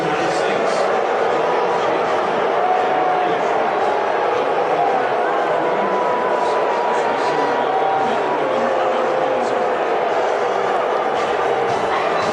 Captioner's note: boos